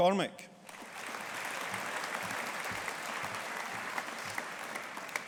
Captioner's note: audience applauding